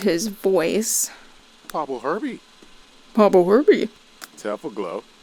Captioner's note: imitating sim voice